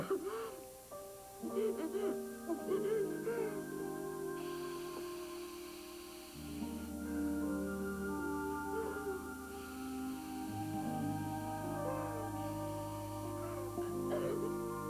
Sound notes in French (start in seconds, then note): 1.4 Toux; 1.4 Pleurs; 4.1 Elle souffle